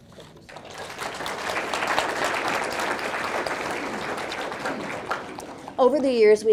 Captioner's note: audience clapping